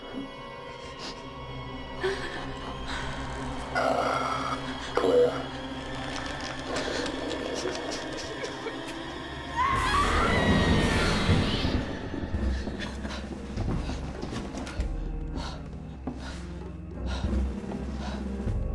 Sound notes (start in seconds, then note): 8.4 Claire whimpering; 9.5 Claire screams; 15.4 suspenseful music